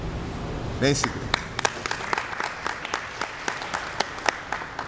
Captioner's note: applause